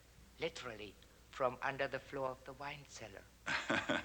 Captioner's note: laughs